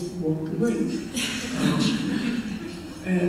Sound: chuckles from audience

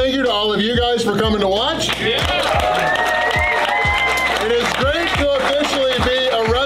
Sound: clapping

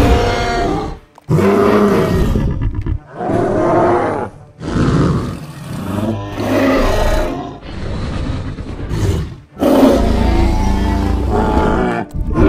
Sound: triceratops Sounds; carcharodontosaurus and Triceratops Sounds

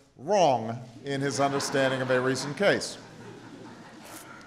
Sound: laughter

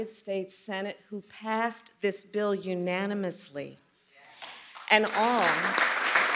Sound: applause

